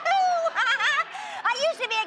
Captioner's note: laughs